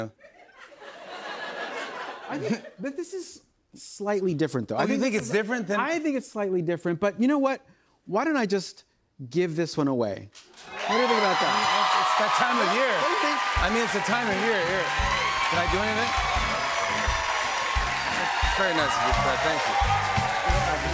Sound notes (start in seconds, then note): 0.0 laughter; 11.3 cheers and applause